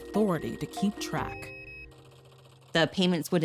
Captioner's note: clacking, beeping